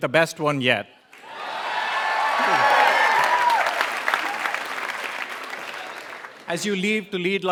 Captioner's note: applause